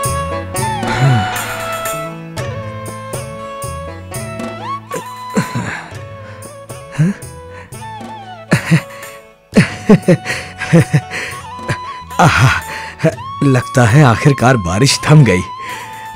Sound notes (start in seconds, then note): 0.8 sighs; 8.4 laughs